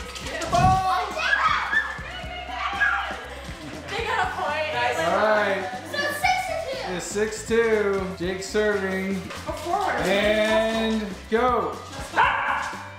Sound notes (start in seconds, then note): 1.1 screaming